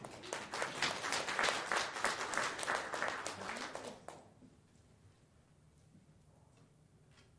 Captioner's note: applause